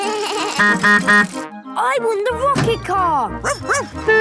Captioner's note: bleating; honking; barking; squeaking; honking